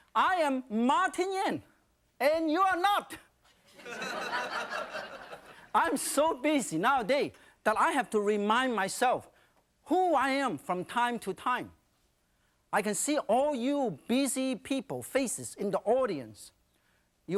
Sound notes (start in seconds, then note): 3.8 audience laughing